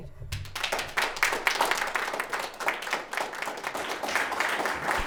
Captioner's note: audience applauding